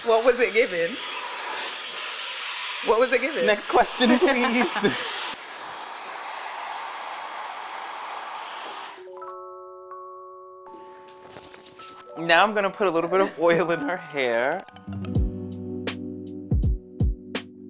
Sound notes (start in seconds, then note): 3.9 laughs; 9.0 soft music; 14.9 chill music